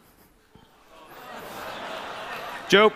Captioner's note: laughter